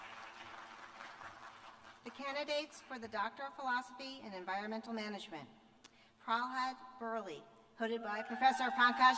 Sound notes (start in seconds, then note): 2.9 cheers and applause